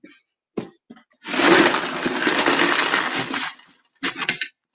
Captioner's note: stones clatter